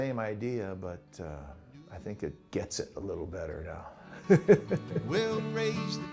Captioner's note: laughs